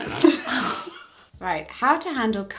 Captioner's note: they both laugh